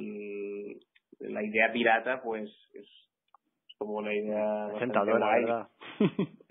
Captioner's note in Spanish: risas